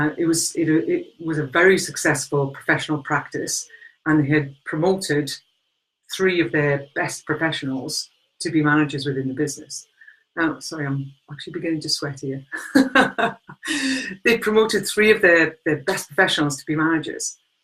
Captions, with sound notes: It was a very successful professional practise, and they had promoted three of their best professionals to be managers within the business. Now, it's sunny, I'm actually beginning to sweat here. (laughing) They promoted three of their best professionals to be managers.